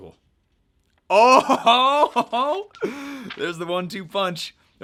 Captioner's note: laughs